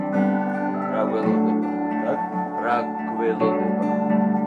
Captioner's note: speak in Georgian